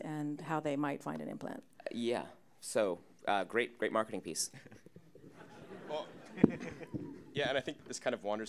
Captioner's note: audience Laughter